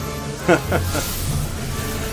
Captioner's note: laughs nervously